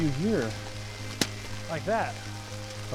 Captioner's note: object smacking